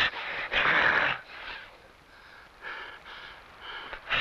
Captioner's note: Juan Pedro grunts